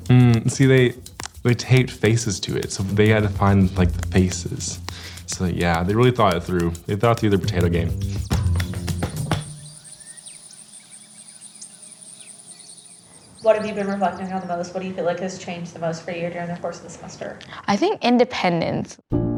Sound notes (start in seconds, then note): 8.9 birds chirp